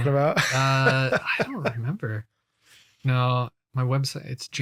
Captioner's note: laughs